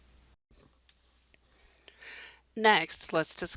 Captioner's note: silence